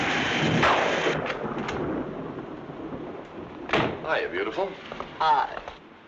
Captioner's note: door rattling; door slamming